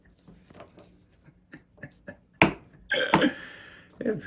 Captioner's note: laughs